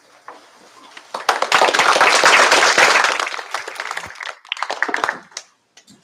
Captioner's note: applause